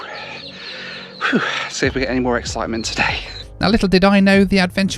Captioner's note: phew